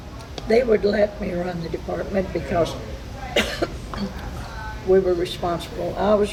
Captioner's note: coughs